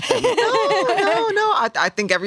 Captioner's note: laughs